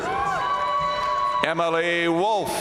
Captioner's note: audience cheering and applauding